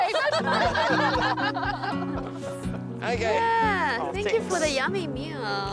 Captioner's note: laughter